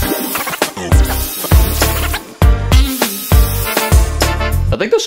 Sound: upbeat music continues; drill whirring

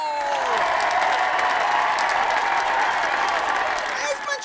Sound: cheer/applause

